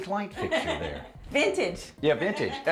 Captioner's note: laughs